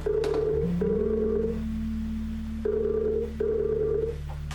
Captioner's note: phone ringing